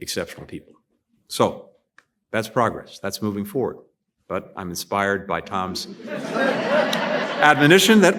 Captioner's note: laughter